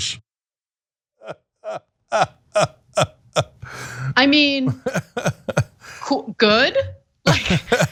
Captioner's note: laugh